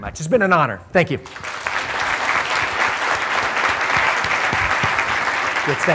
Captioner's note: applause